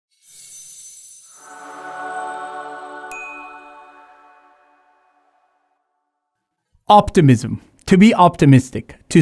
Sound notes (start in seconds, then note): 0.2 bright music; 3.1 graphics ding